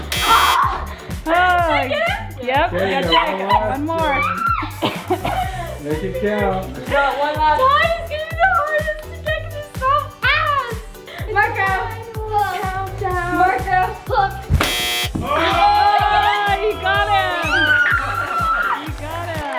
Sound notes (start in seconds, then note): 0.0 buzzer buzzes; 14.5 buzzer buzzes; 15.2 family screams